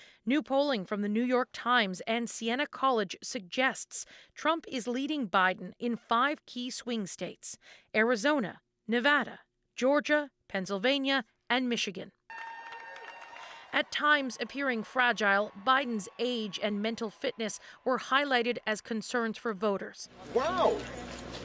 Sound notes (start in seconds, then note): 15.1 cheers and Applause